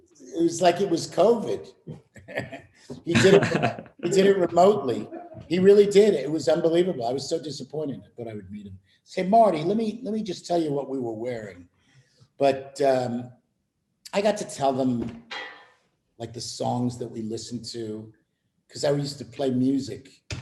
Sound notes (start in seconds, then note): 3.0 laughter